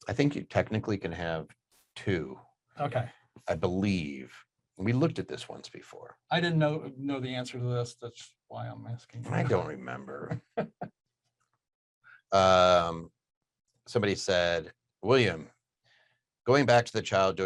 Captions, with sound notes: - I think, technically you can have two, I believe, and we looked at this once before. - I didn't know the answer to this, that's why I'm asking (laughing). - I don't remember. Somebody said, William, "Going back to the child